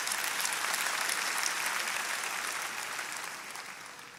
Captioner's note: congregation applauding